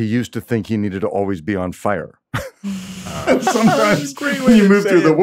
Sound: laughs

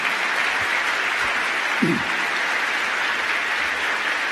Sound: applause

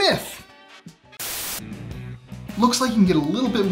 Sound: static hissing

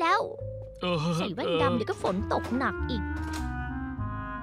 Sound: door closing

